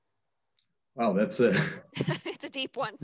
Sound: laughs

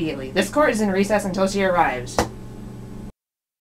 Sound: bangs gavel

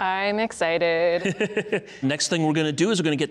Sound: laughing

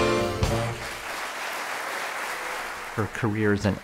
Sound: applause

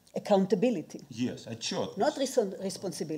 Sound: speaking in foreign language

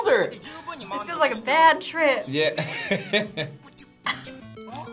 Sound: laughs

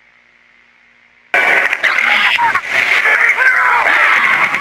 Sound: glitched Out Screaming

